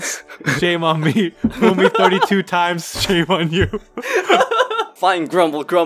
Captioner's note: laughs